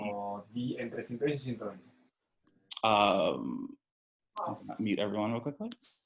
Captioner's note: participant speaking in foreign language